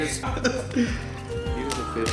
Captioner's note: laughing